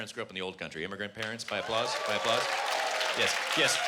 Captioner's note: applause